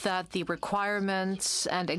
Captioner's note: speaking in french